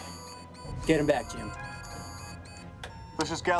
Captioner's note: alarm